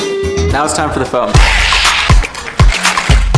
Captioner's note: upbeat music; foam cans spraying; energetic music